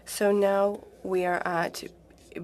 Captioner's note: speaking French